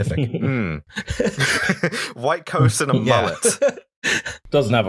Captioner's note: laughter